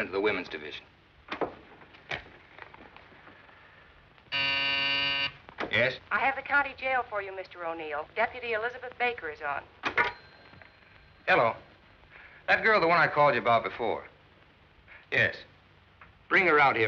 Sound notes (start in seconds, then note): 4.3 buzzer